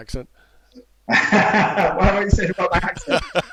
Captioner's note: laughs